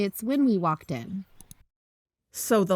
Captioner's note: click